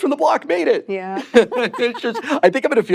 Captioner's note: both laughing